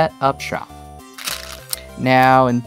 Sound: stones rattling

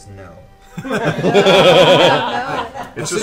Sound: all laugh

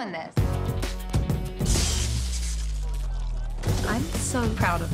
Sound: electricity buzzes

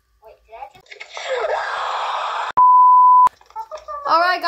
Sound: screams

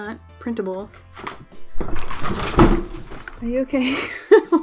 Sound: cat crashing

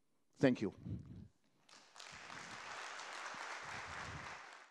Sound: applause

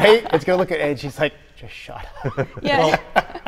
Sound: laughing

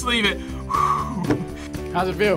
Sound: sighs

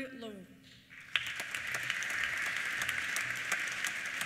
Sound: applause

